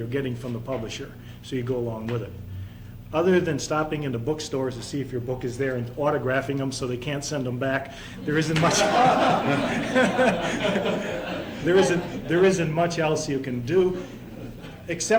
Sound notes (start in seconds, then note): 8.2 laughter